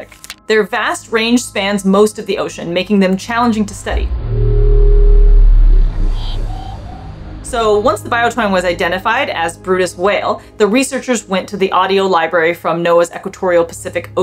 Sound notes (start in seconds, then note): 3.4 noise abruptly fluctuating between low & medium pitch